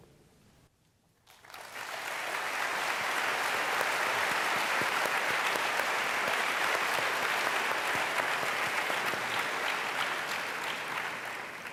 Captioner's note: applause